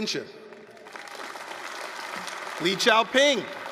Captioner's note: applause, cheering